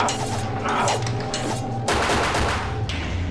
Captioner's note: gun fires